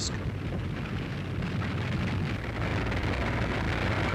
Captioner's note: engines rumbling